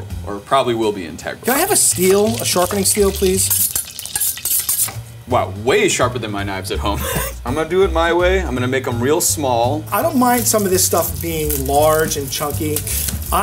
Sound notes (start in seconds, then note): 4.2 blade scraping